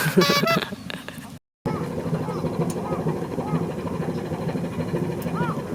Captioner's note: laughs